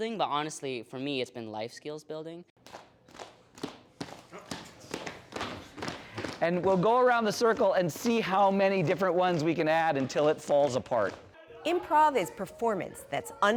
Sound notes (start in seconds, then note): 4.0 students clapping